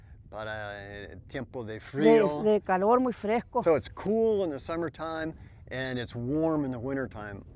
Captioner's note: spanish